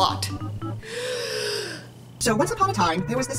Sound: inhales

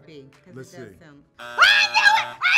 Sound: buzzer rings

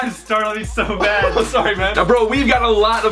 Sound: laughing

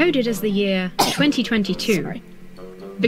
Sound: sneezes

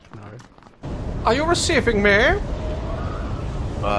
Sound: normal voice; German accent

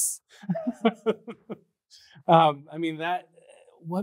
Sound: laughs

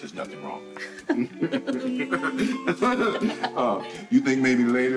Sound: both laughing

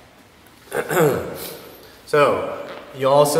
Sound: clears his throat

